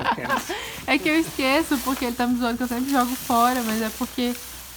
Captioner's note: laughing